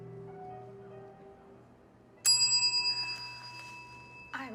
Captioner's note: bell rings